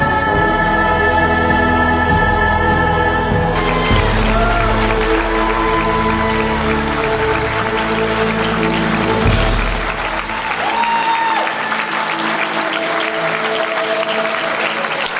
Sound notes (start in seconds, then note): 3.9 audience applauds